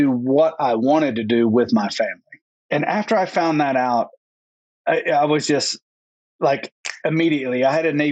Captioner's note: snap